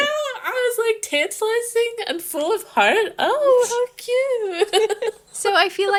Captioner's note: laughing